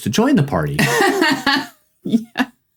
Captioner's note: laughing